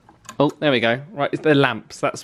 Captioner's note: switch clicks